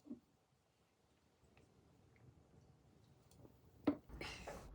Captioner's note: laughs